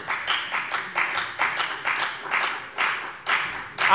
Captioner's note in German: Beifall bei der FDP